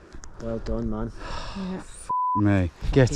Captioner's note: beep